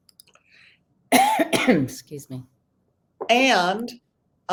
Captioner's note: coughs